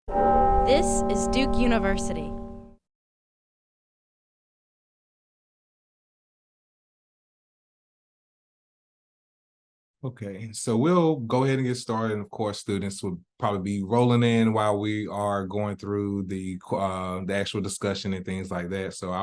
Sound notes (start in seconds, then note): 0.1 bell rings; 0.9 voiceover